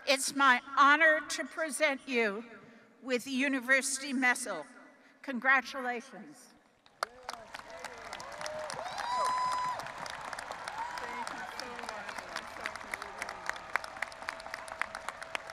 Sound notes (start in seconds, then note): 6.9 audience applauding and cheering